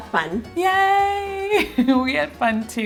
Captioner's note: chuckles